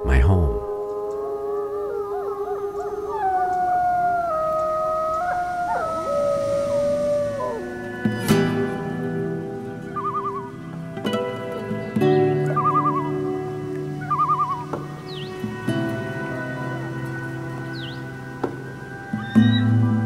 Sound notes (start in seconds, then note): 0.7 wolves howling; 9.9 loon's tremolo call; 19.2 eagle call